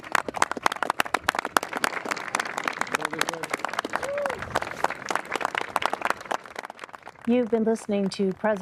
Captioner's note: applause